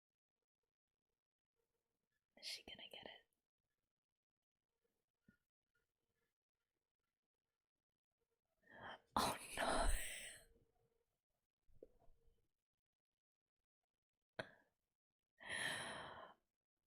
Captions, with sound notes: [whispers] Is she gonna get it? Oh no!